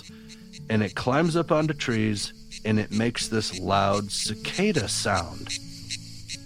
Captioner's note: cue cicada sound